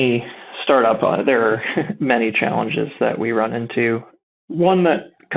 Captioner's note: chuckles